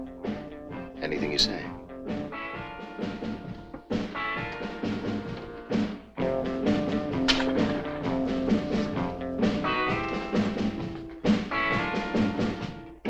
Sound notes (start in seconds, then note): 4.0 bright upbeat music continues; 7.2 coin clatters